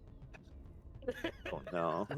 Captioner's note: laughs